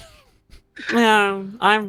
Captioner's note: laughing